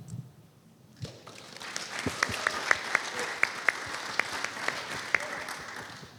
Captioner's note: applause